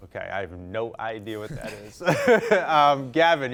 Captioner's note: laughs; contestants chuckling